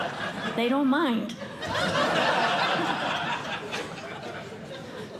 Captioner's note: laughter